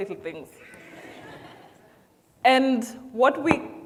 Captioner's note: audience laughs